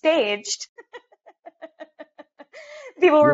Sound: laughs

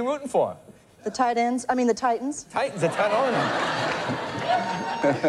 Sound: laughter

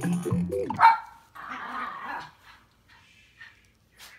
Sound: dog barking

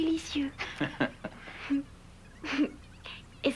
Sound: Rire

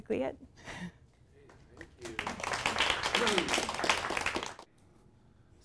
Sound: audience applauds

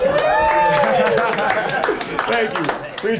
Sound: staff cheering and applauding

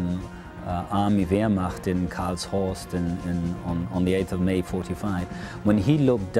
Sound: in foreign language

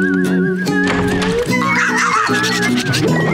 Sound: barking

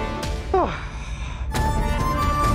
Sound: exhales

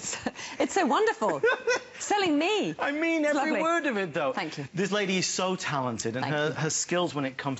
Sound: laughter

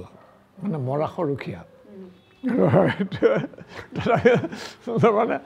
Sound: laughs

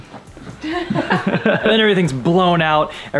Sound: group laughing

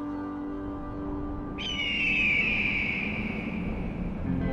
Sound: bird cawing

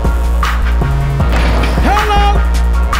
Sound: basket thumps

